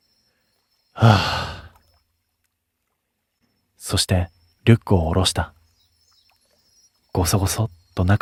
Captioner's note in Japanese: ため息